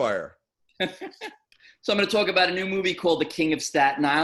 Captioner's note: laughing